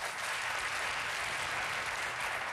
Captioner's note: applause